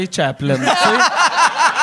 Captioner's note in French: rires